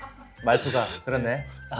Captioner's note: laughs